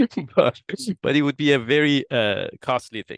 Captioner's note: laugh